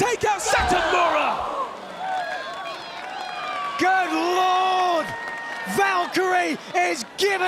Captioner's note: applause